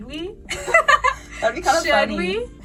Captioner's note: laughing